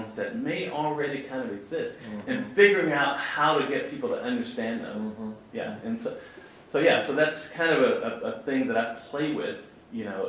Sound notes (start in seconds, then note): none